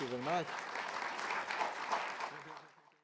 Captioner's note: audience clapping